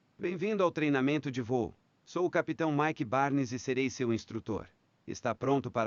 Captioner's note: speaking in a foreign language